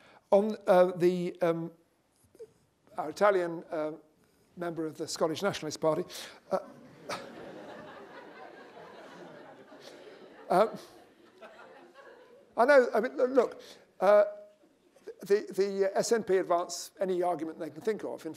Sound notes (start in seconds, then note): 6.5 laughter